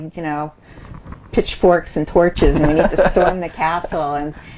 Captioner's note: laughs